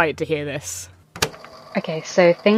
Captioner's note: tape recorder clicks on